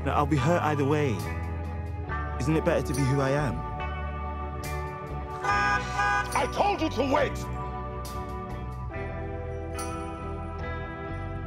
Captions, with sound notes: - Look, I'll be hurt either way. Isn't it better to be who I am? (gentle electronic music) (car horn beeping) - I told you to wait!